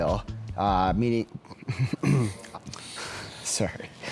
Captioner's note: chuckles; clears throat